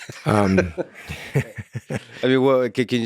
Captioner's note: Lex laughs; laughs